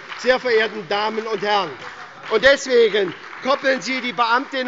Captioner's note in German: Beifall bei der SPD